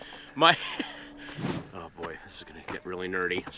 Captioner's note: Patton laughing